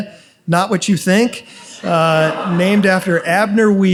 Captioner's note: audience laughs